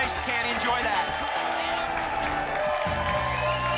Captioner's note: applause and cheering